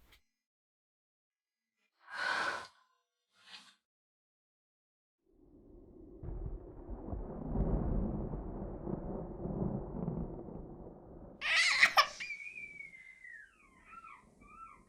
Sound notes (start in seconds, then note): 7.1 thunder; 11.4 baby crying